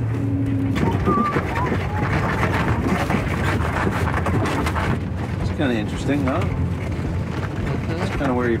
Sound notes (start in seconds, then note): 0.0 tires rumbling